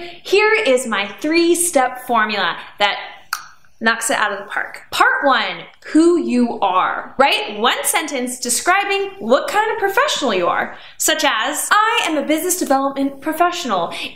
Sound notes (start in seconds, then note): 3.3 clicks tongue